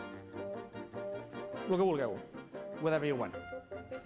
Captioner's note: non-english speech